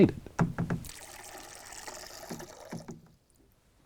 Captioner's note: sounds of running water can be heard